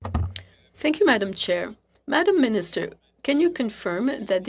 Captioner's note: speaking French